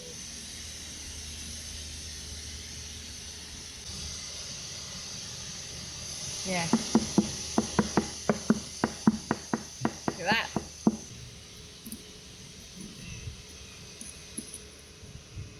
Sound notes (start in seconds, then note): 6.7 knocking